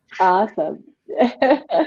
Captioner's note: laughing